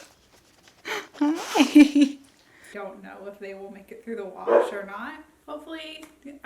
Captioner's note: Odin Barking